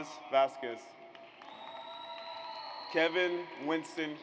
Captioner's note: audience cheers